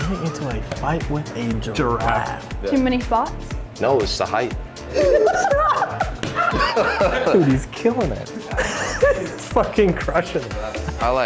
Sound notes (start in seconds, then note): 4.9 both laughing